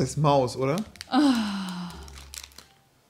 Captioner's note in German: genervtes Seufzen